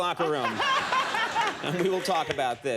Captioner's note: audience laughing